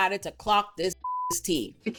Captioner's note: beep